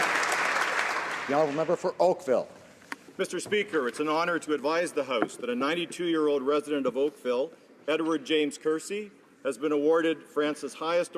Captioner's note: some Applause